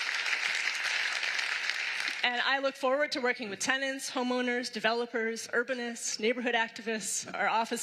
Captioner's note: applause